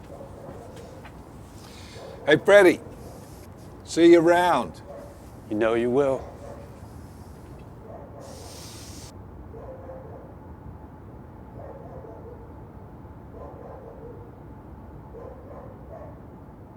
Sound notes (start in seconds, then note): 8.7 dog barking